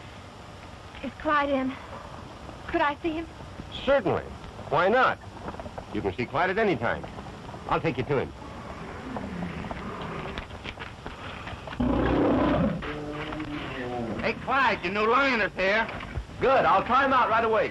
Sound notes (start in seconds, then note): 11.7 lions roaring